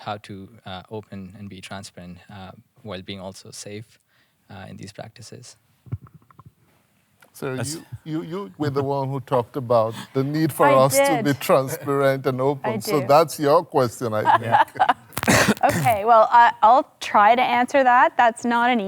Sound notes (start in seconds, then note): 14.2 laughs